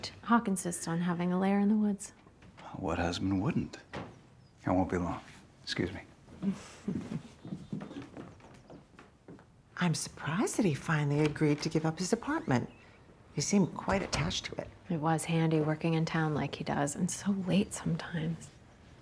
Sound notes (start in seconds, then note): 6.4 laughs